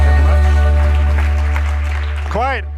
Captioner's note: applause